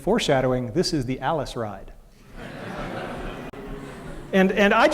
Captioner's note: laughter